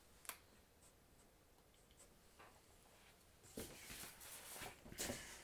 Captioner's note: pencil scratching